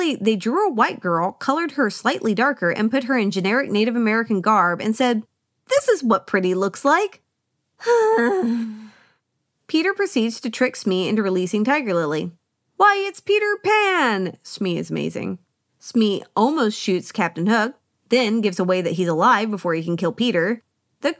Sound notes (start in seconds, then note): 7.8 sigh